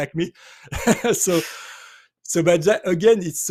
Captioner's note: laughs